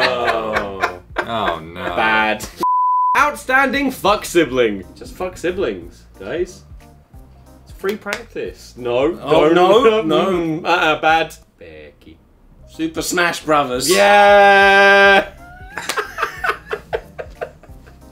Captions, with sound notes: - Oh no. - Bad. - Outstanding Fuck Siblings. Just fuck siblings, guys. It's free practice. - No. - No, no. - Mm, uh-uh. Bad. - Becky. - Super Smash Brothers. - Yeah! (laughs)